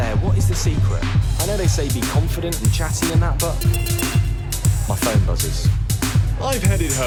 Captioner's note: text tone